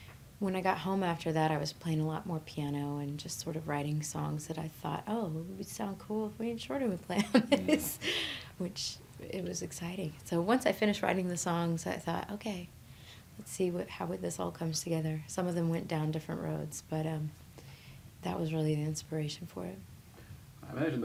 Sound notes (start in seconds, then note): 7.2 laughing